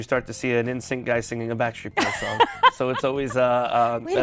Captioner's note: laughs